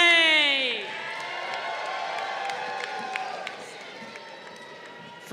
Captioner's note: crowd cheering